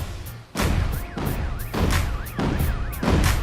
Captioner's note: car alarms sounding